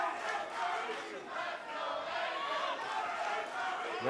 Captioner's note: fans chanting